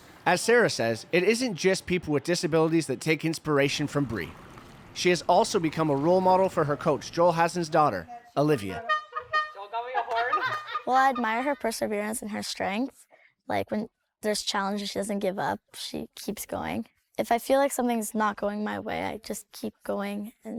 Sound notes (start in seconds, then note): 8.4 laughing; 8.6 bike horn honking; 10.2 laughing